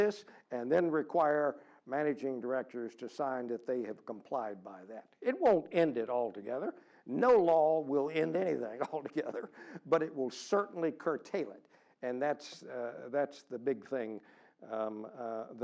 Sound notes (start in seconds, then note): 8.6 laugh